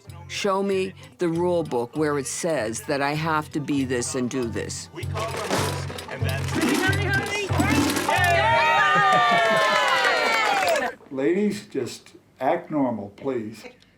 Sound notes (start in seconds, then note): 8.0 cheering